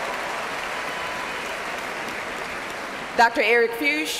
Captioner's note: cheers and applause